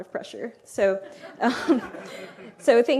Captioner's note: laughter